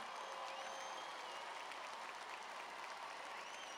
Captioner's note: cheers and applause